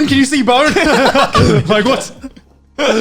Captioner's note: laughing